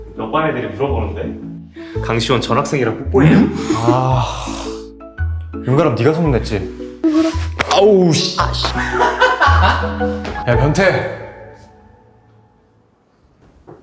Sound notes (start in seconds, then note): 3.2 Si-Won sighs; 8.2 Ga-Ram laughs